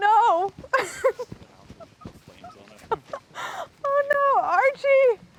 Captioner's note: Claire laughing